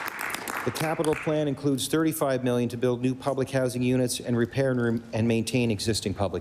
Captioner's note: applause